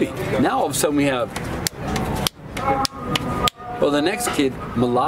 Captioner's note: palms slapping